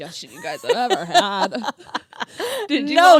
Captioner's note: laughs